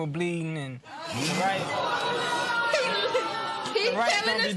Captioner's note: laughter